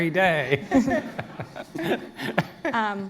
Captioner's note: laughter